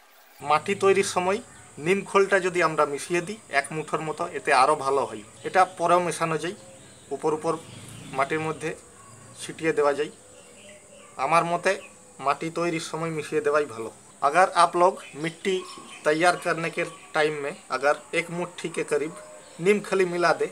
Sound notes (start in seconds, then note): 16.8 in Hindi